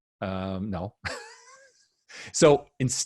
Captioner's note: laughs